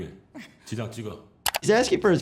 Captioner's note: mouse clicks